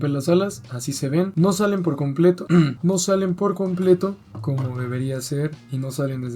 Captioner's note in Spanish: carraspeo